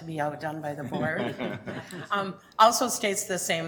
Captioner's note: chuckling